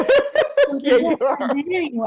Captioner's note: laughing